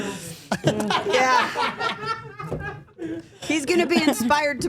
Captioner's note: everyone laughing